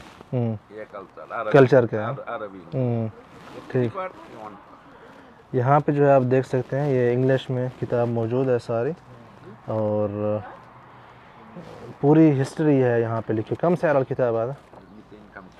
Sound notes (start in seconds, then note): 0.3 Arabic; 13.5 Arabic